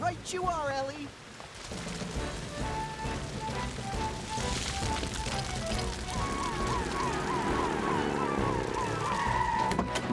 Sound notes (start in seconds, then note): 1.7 heroic Music; 5.9 siren Wailing